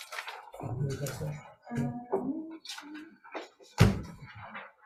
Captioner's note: speaking faintly